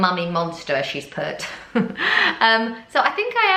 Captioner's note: chuckles